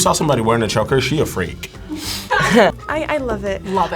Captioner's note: laughs; both laugh